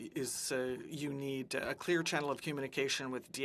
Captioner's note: speaking French